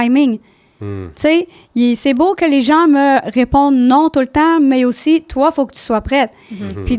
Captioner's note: in french